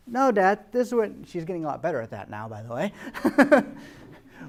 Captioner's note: laughing